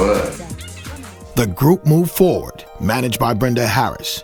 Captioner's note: voiceover